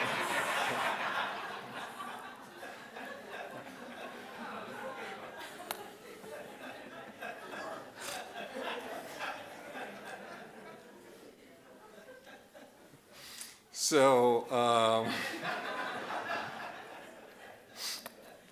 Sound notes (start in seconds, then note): 6.6 audience laughing